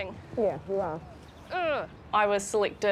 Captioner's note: groans